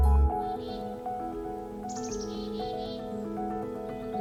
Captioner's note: birds singing